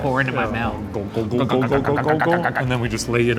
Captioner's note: gurgling sounds